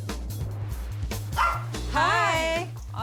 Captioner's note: dog barking